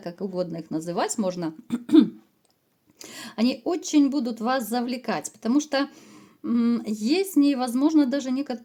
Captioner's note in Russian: откашливается